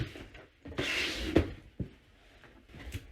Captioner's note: shuffling and box noises